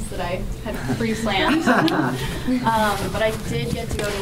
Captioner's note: laughter